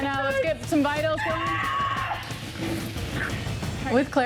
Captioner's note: screaming